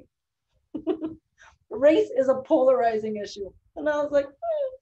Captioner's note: chuckles